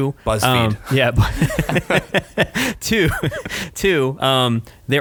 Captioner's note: laughing